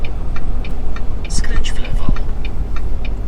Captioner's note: GPS talking